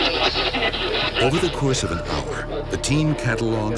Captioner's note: voiceover